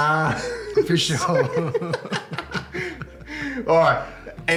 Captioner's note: laughs